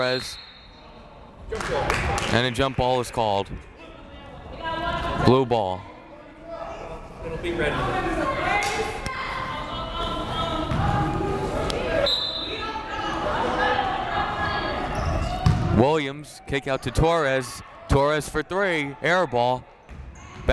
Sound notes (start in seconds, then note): 0.0 whistle blowing; 7.6 various players shouting; 12.0 whistle blowing